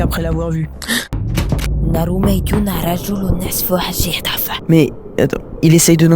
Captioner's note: speaks Arabic